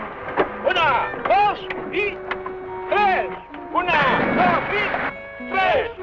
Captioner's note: water splashing